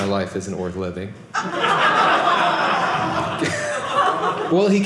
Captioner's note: audience laughing